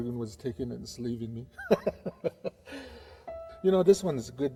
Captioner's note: laughing